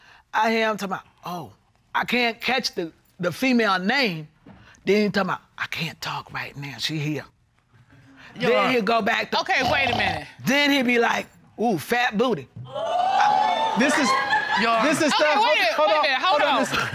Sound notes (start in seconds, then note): 9.6 imitates snoring; 12.7 audience gasping